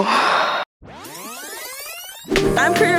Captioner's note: tape whirls in rewind